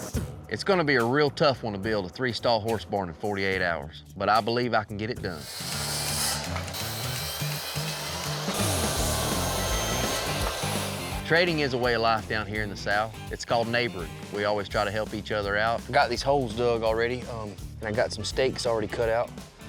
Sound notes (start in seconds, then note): 5.3 sawing